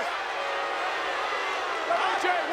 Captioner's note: audience booing